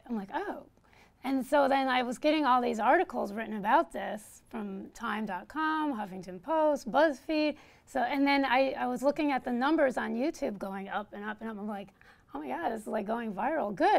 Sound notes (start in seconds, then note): none